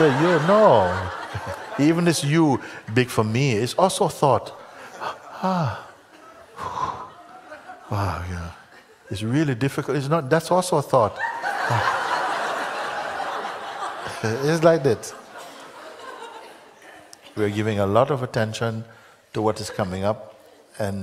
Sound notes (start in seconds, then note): 11.2 Lachen